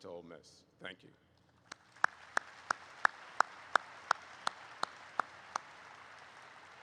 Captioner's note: applause erupts